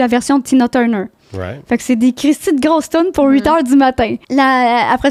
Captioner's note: in french